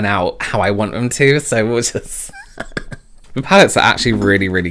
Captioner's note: laughs